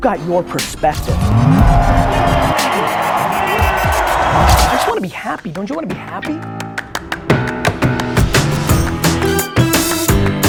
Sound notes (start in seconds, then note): 2.8 audience roars; 6.5 upbeat music